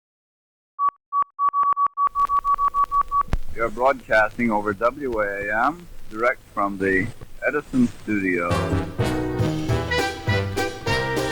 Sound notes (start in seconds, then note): 0.8 static crackling; 2.0 radio beeping; 8.2 lively music